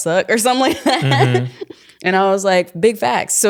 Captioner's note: chuckling